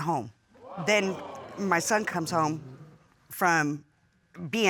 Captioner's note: audience gasps